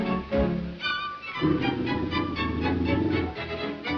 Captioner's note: dog growls